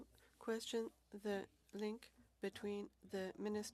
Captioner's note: speaking French